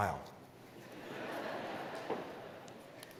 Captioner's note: laugh